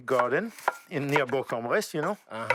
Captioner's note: speaks French